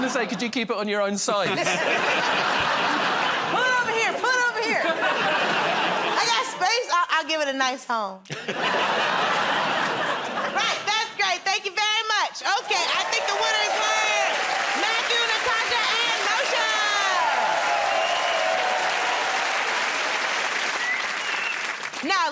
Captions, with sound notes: -I was gonna say, "Could you keep it on your own side?" [ Laughter ] -Put it over here, put it over here. [ Laughter ] I got space. I'll give it a nice home. [ Laughter ] Right, that's great. Thank you very much. Okay, I think the winners are Matthew, Natasha, and Moshe! [ Cheers and applause ]